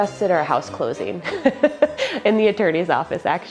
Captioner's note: laughs